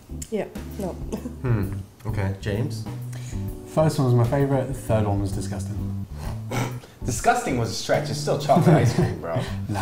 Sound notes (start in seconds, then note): 6.2 snorts